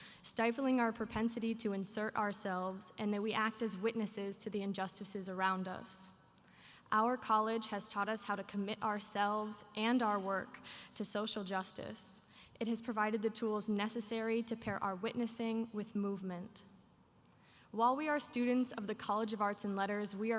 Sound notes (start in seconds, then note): none